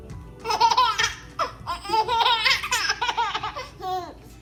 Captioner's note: baby laughing